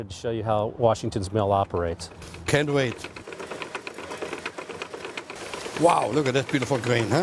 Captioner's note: mill noises